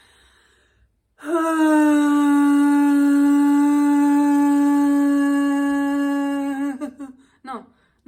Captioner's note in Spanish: suspiro forzado